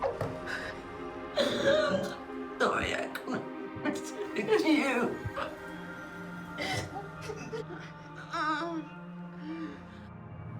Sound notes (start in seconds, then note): 1.4 Mia crying; 6.5 both crying